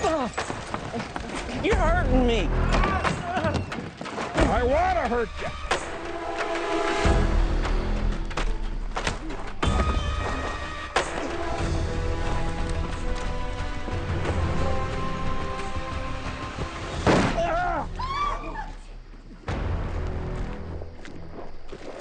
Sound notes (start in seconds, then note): 3.2 Billy groaning; 8.8 fists pounding; 17.0 gunshot; 17.4 women screaming